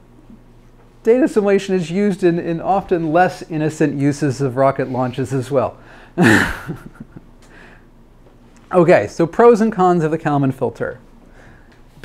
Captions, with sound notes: Data simulation is used in often less innocent uses of rocket launches, as well. (laughs) Okay, so pros and cons of the Kalman filter.